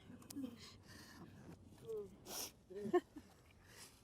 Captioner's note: breathes heavily